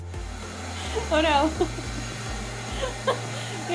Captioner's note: laughs